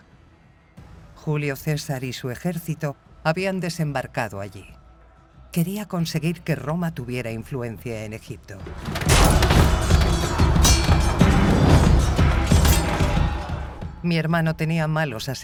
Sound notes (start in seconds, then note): 8.6 armor clatters; 10.8 dramatic music; 10.8 swords clanging